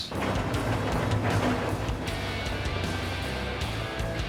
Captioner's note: scraping sound